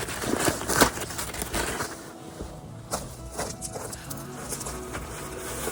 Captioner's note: campfire